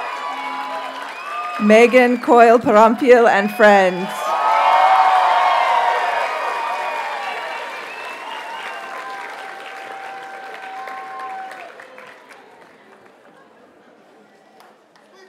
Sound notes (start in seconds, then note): 4.0 audience cheers and applauds